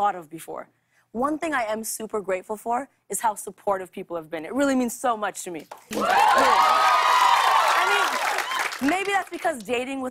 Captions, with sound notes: One thing I am super grateful for is how supportive people have been. It really means so much to me. Really. [ Cheers and applause ] I mean, maybe that's because dating within the same sex